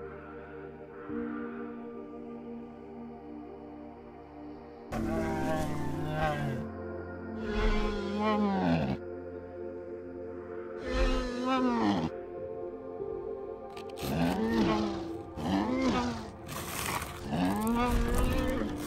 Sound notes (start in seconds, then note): 5.7 bumpy sounds